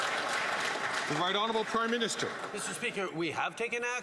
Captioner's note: some Applause